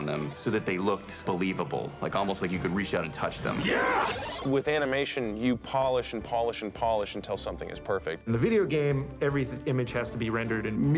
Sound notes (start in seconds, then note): 3.4 power-Up sound